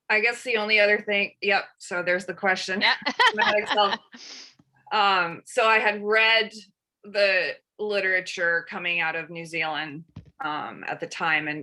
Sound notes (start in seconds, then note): 3.0 laughs